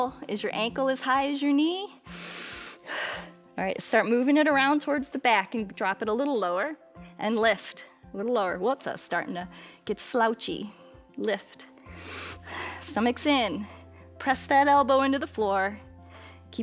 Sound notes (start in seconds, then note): 2.1 inhales and exhales; 11.8 inhales